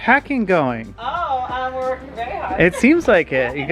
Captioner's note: laughs